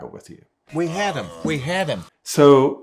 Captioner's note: man groaning